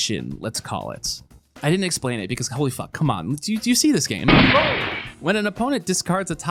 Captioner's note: gunshot